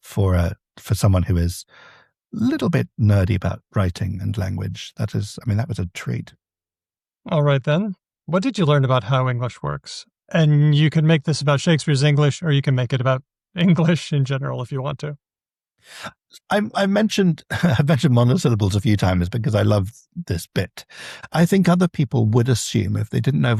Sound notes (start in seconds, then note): 17.4 chuckles